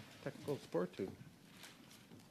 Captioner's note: speaking in French